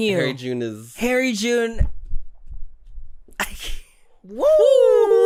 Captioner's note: scoffs